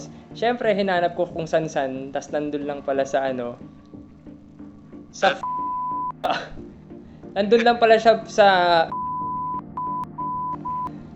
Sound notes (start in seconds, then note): 5.7 toot; 8.9 toooot toot toot tooot